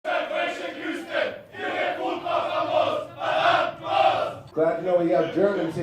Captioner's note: audience Chanting in German